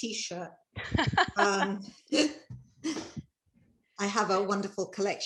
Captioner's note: laughing